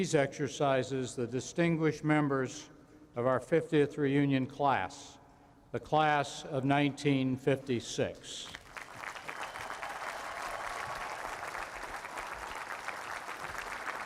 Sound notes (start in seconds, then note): 8.5 applause